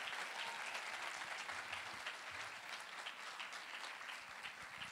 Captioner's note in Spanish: aplausos